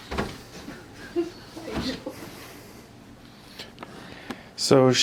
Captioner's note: laughs